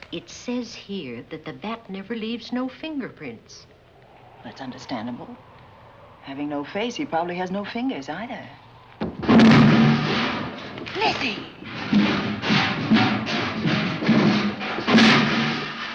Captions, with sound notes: It says here that the Bat never leaves no fingerprints. That's understandable. Having no face, he probably has no fingers either. [LOUD CRASH] Lizzie! [STEEL CLANGING]